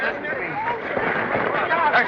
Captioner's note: commotion